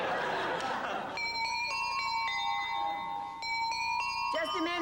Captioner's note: doorbell plays